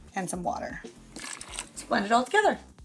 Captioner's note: water sloshing